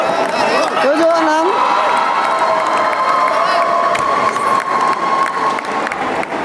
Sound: applause

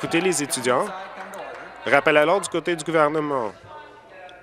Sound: applause

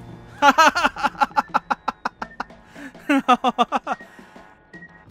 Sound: laughter

